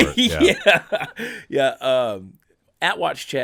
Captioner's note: laughing